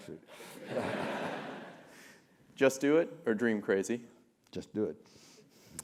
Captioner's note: laugh